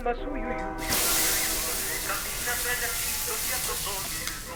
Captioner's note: sizzling